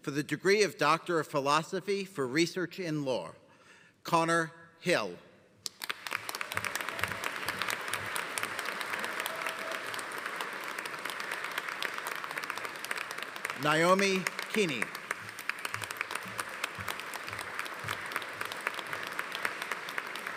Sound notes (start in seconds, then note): 5.6 audience applauding; 15.4 audience applauding